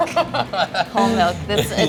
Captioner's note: laughing